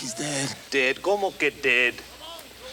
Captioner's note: speaks Spanish